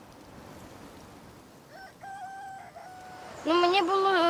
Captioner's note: rooster crowing